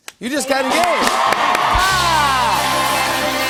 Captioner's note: cheers and applause